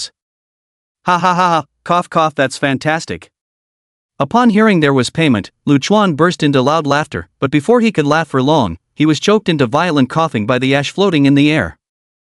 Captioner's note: cough cough